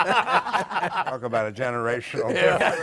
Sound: laughter

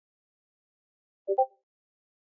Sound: discord ping

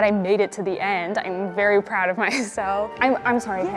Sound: laughs

